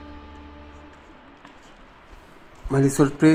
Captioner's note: silence